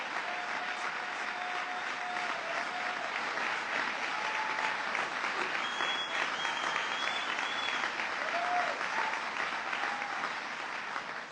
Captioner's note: applause